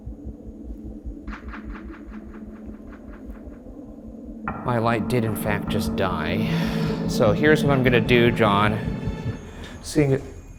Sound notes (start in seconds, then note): 0.1 deep ominous music; 6.5 sighing